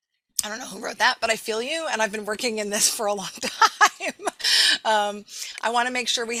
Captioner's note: laughing